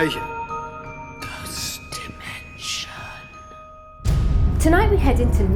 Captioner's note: whispering